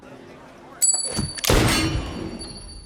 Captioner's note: gunshot